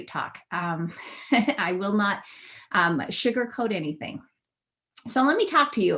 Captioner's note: laughter